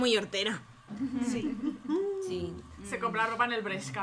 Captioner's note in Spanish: risas